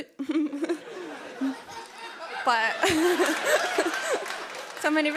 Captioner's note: laughter